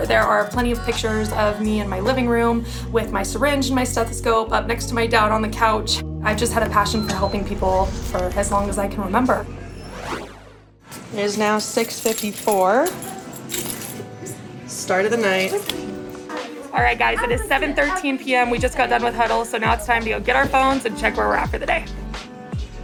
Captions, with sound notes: There are plenty of pictures of me in my living room with my syringe and my stethoscope up next to my dad on the couch. I've just had a passion [ID reader beeps] for helping people for as long as I can remember. [keys jingling] It is now 6:54... [keys jingling] start of the night. All right, guys. It is 7:13 p.m., we just got done with huddles. So, now it's time to go get our phones and check where we're at for the day.